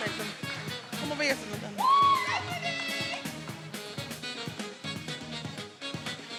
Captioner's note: speaks faintly